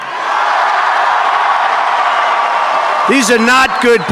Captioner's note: audience Cheers